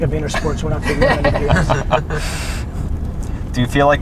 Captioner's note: group laughter